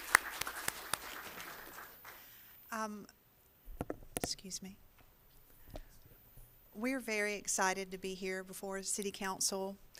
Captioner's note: applause